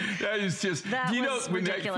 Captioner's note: laughter